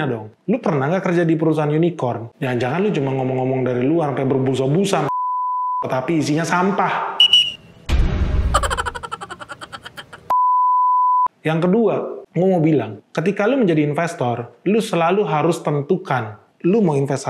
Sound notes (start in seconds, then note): 8.5 laughs